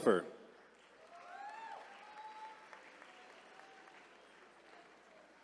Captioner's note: attendees cheering